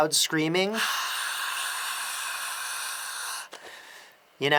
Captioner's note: imitating a huge crowd screaming